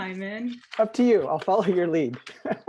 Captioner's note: laughter